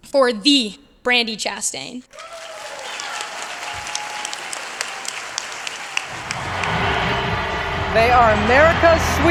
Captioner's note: applause